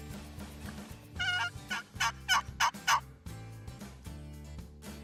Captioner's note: turkey call yelps